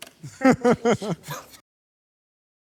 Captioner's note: laughing